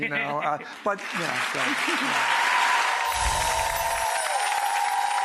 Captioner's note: audience cheers